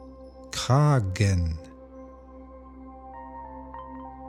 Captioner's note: german